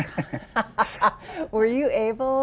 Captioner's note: both laughing